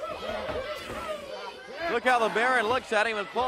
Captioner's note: crowd cheering